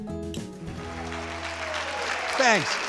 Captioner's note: applause